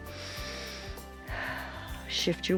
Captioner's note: inhales and exhales